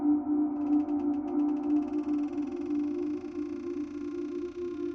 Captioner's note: door creaking